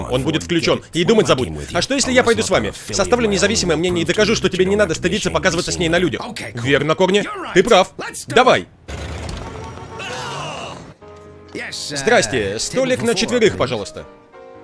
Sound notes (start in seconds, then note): 9.8 both yelling